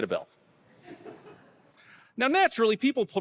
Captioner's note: audience laughing